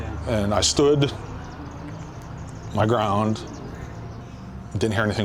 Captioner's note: laughs